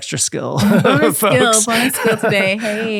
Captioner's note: laughing